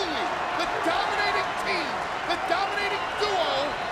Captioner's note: audience chanting and clapping